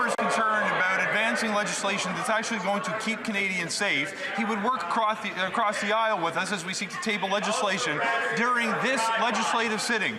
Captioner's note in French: voix de l'interprète